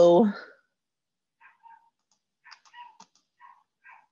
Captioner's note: barking